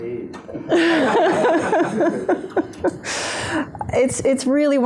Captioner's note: laughter